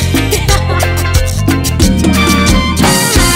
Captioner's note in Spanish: riendo